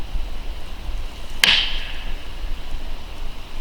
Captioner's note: knocking